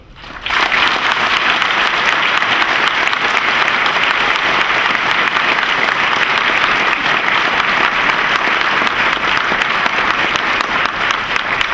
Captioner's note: applause